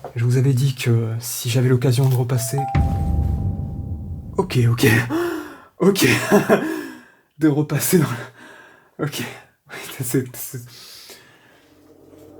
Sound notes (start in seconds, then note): 7.2 nervous laughs